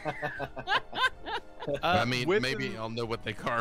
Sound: laughs

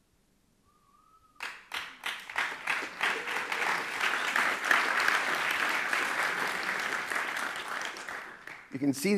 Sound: clapping

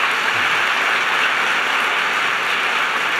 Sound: applause

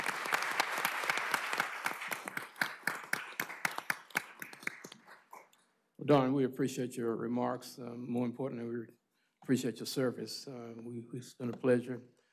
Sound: applause

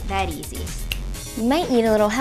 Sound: finger snap

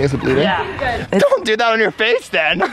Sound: skaters and spectators chatting

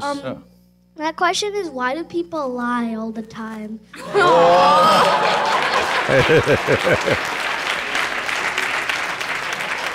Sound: laughter/Applause

